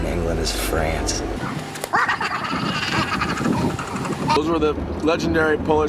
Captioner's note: sped up laughs